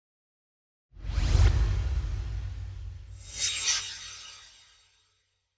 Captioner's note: swoosh